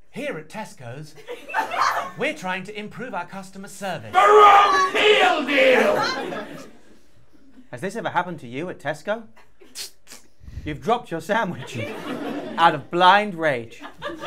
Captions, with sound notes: (tannoy voice) Here at Tesco's, we're trying to improve our customer service. THE WRONG MEAL DEAL! (infomercial voice) Has this ever happened to you at Tesco? Tzss! Spzts! You've dropped your sandwich out of blind rage.